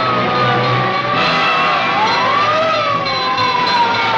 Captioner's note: sirens